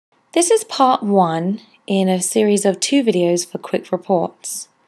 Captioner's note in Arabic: تعليق صوتي